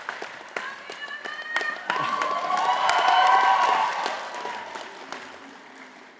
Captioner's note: audience applauding and cheering